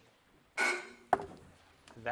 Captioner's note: timer buzzes